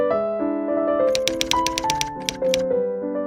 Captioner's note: typewriter tapping